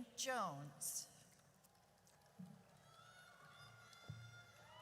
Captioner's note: audience cheers